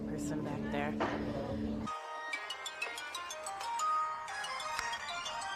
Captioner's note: phone rings